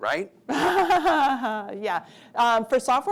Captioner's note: laughing